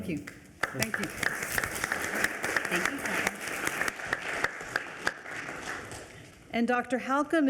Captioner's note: everyone applauding